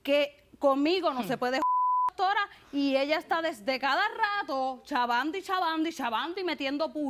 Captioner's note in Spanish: Bip